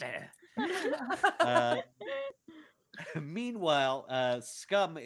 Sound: all laughing

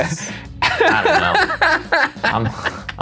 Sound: laughing

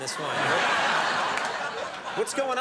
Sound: audience laughing

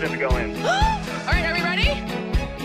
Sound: gasps

